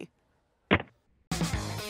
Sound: receiver clicks; upbeat rock music

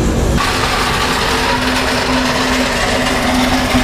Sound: metal dragging

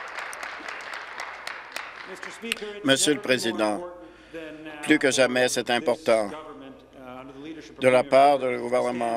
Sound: applause

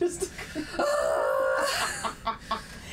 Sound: screaming; laughing

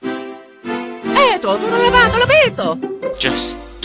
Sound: italian gibberish

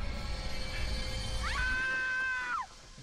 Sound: screaming; steam hissing

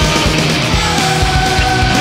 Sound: crowd

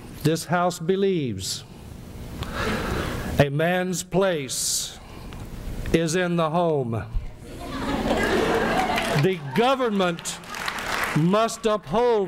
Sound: laughter and applause

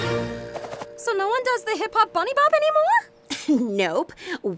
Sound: scoffs

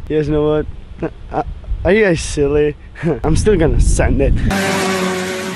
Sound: motorized vehicle sounds

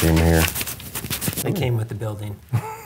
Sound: hands sliding; laughs

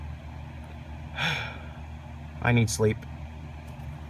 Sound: sigh

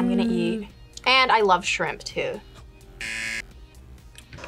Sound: buzzer

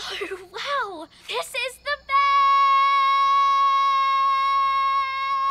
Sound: screams best

